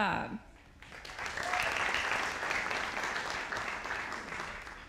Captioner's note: audience applauding